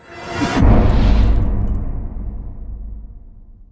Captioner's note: impact